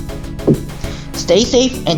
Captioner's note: door sounds